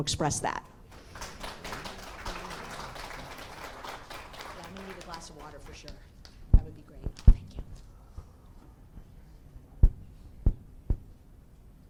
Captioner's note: applause